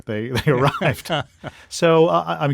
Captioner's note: laughter